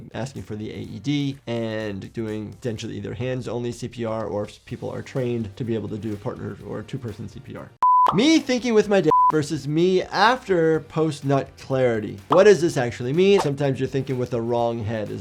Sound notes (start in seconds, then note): 7.8 beep; 9.0 screen beeps